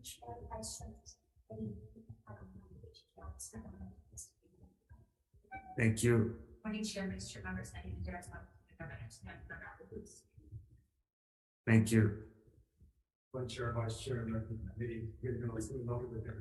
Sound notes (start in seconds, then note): 9.7 speaking faintly off mic